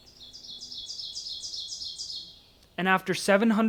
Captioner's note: birds singing